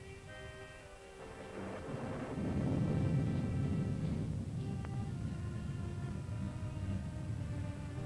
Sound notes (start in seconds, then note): 0.0 pensive music; 1.2 thunder rumbling